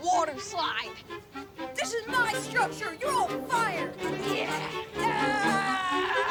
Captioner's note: loud screaming